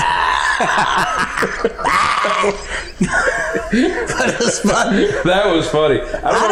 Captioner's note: laughing